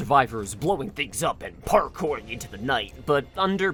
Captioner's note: bad action movie voice